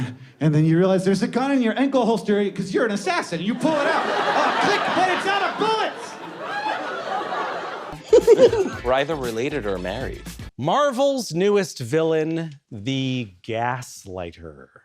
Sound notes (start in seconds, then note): 6.7 audience laughter